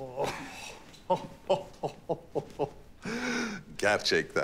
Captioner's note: laughter